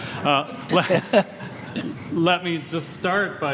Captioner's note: laughs